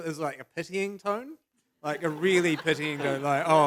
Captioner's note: laughter